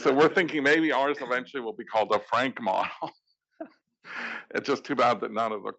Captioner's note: laugh